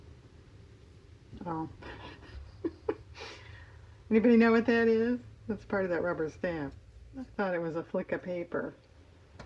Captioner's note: laughs